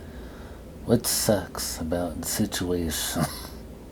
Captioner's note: coughs